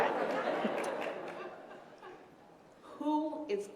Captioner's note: laughter